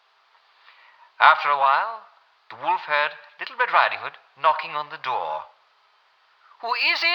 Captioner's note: German accent